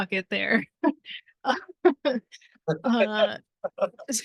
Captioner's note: laughing